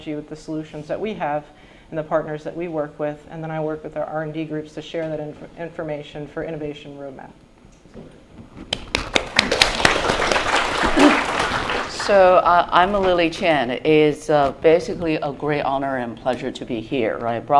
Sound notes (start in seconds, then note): 8.8 applause